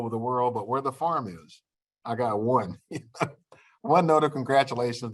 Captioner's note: laughter